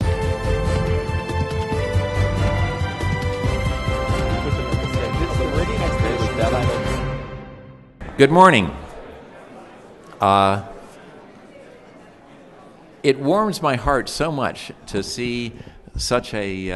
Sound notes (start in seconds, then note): 9.6 background conversations